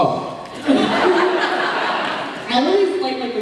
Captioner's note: laughs